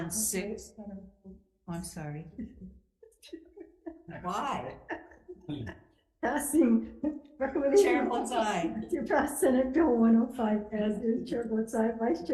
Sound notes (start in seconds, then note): 3.1 committee laughing; 7.2 laughter continues